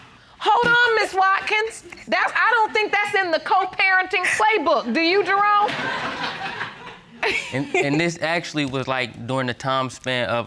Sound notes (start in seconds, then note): 5.4 audience laughs